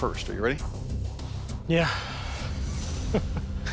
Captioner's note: exhales; chuckles